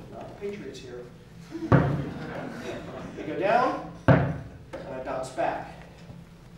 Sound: laugh

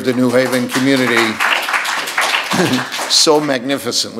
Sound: audience applauds

